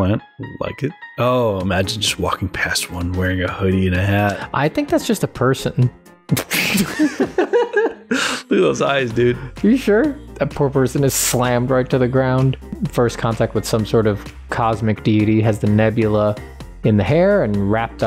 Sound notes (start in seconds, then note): 6.4 laughter